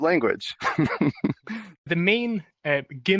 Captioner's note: laughter